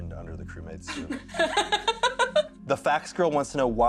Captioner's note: laughter